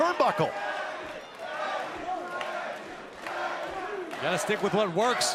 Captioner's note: crowd cheering